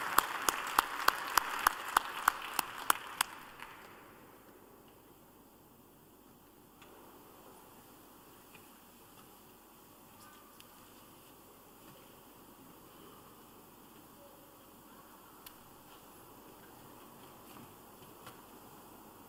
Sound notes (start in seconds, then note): 7.1 applause